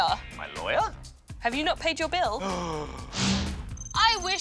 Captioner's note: gasps